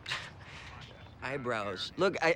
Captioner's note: scoffs